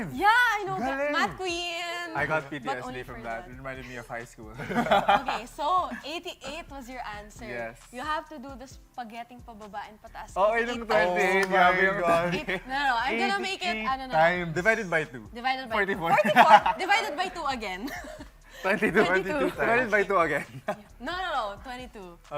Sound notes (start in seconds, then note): 4.5 laughing